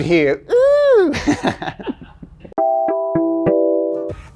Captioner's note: laughs